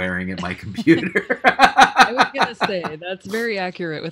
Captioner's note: laughing